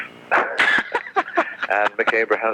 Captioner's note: laughs